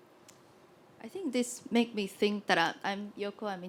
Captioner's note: voiceover